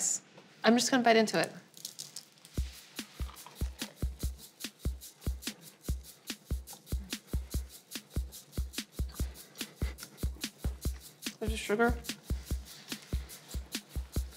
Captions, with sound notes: I'm just gonna bite into it. (doughnut crunches) (upbeat music) There's the sugar.